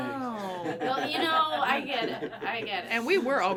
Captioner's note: everyone laughing